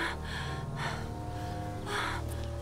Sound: gasping

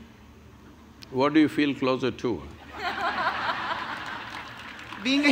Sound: laughter

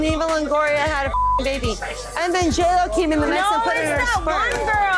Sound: beeping

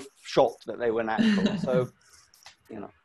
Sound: laughs

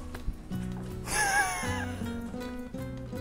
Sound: laughter

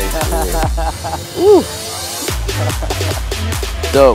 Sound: laughs

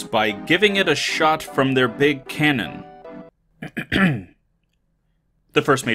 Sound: clearing throat

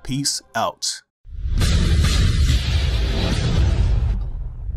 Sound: loud Sound Effects

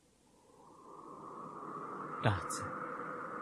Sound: SFX: wind blowing

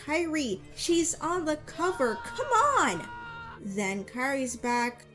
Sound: Sora screams in the background

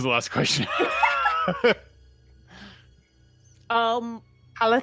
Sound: players laughing

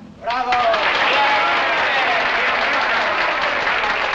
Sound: cheering

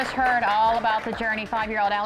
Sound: applause

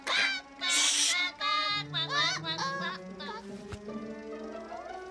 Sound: chicken speaks in gibberish; chicken shushing

